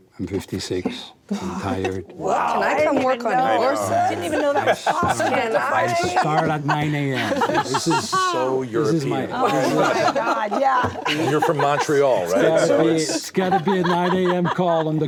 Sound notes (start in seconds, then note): 5.6 all laugh